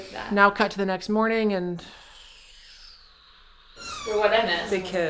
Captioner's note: big Evasive sigh